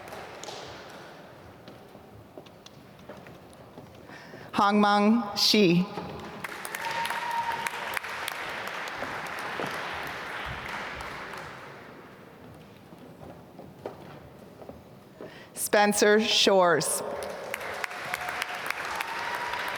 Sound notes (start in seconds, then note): 6.4 applause; 17.1 applause